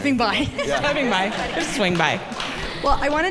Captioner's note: laughter